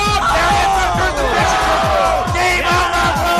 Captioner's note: cheering